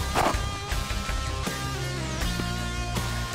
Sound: gunshot

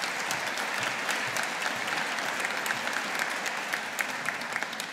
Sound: audience applauding

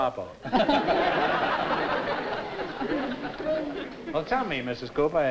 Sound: laughter

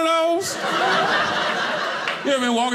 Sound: audience laughing

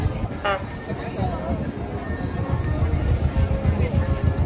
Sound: vehicle horn beeps

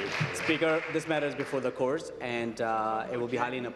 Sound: applause

